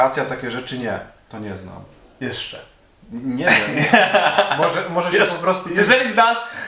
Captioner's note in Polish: śmiech